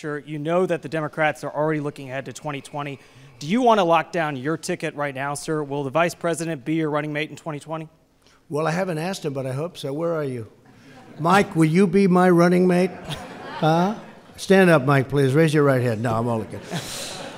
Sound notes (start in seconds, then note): 10.7 laughter; 12.8 laughter